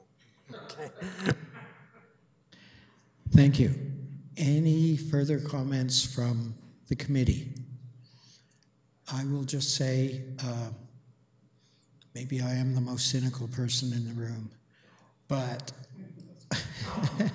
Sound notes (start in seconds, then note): 0.5 laughter; 16.5 laughter